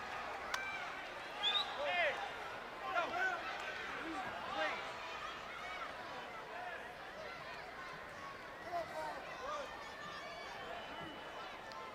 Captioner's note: crowd chatter